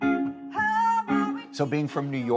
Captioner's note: soulful blues music; vocalizing